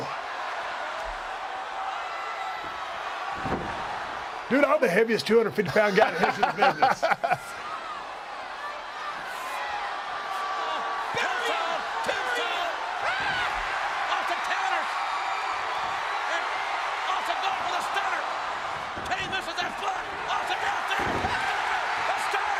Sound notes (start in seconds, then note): 0.9 applause; 5.6 laugh; 5.9 applause